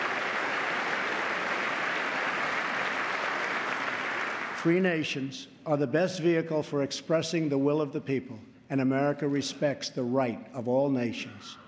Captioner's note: applause